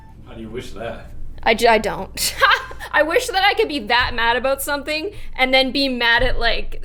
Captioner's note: laugh